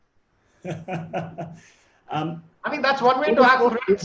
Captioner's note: laughs